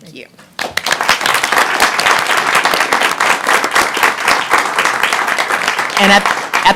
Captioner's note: applause